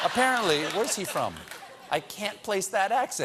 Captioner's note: laughter